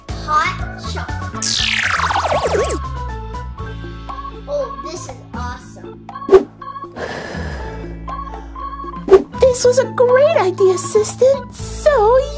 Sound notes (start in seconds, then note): 7.1 Skye blowing